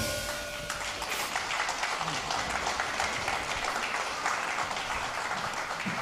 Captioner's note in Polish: oklaski